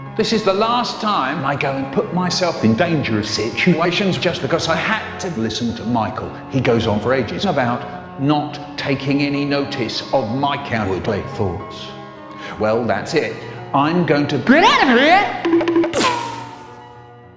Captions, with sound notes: This is the last time I go and put myself in dangerous situations just because I had to listen to Michael. He goes on for ages about not taking any notice of my cowardly thoughts... Well, that's it. I'm going to GEt OuT oF hErE! *Hanna-Barbera running away sound effects*